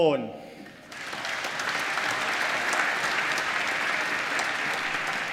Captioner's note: applause